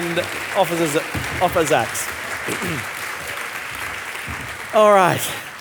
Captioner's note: audience applauding